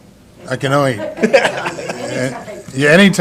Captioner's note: laughter